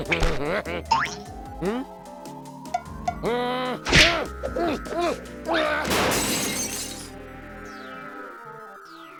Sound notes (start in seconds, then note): 3.2 struggles; 5.9 glass breaking